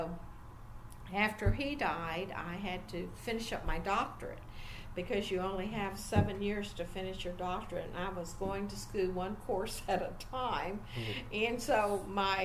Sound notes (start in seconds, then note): 10.6 nearly laughs